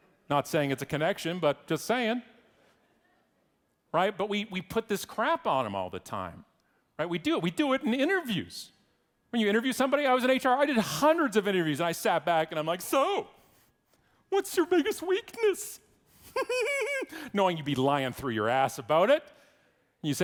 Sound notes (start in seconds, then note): 16.2 laughs